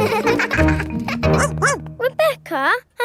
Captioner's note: barks